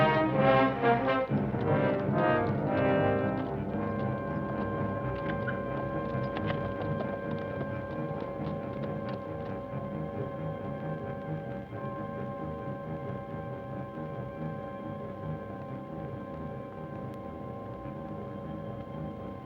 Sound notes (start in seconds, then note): 3.0 distant hooves clop; 3.0 suspenseful orchestral music